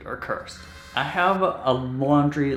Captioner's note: buzzing